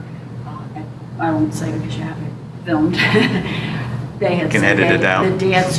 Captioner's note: laughter